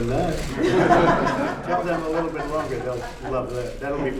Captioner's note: laughter